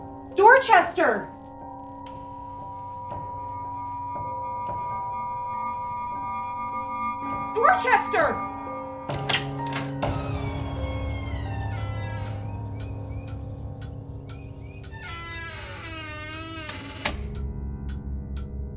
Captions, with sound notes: Dorchester! (tense music) Dorchester! (door opening) (clock ticking)